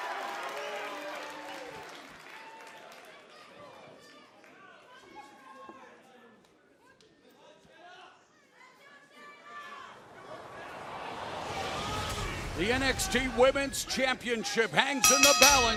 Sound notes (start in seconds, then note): 0.0 cheers and applause